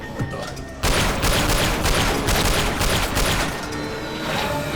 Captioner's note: gunshot